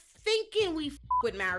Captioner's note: beep